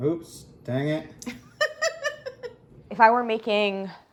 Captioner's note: laughs